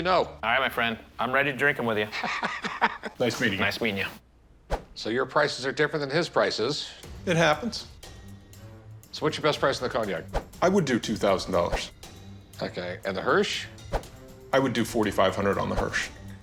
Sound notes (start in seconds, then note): 2.0 Rick laughs